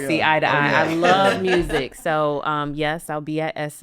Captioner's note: podcaster chuckling